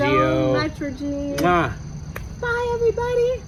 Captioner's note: kisses